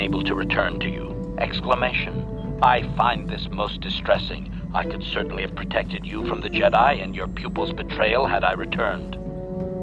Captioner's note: exclamation